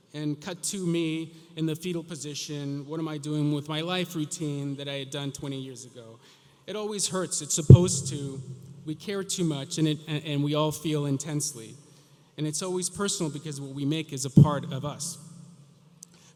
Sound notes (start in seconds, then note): none